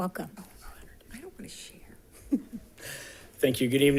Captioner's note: chuckles